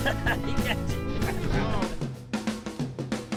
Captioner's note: laughs; upbeat music